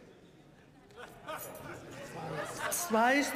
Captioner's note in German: Gelächter